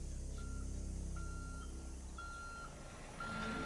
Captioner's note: truck reversing